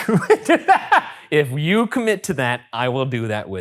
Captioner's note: laughing